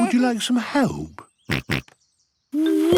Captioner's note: snorts